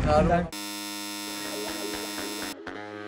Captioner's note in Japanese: 開演ブザーの音